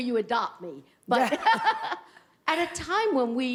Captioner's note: laughs